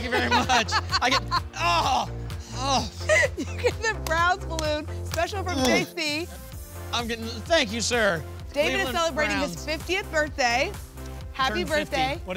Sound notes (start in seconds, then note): 2.4 makes sounds of disgust